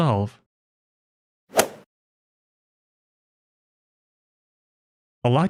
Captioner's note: golf ball hit sound effect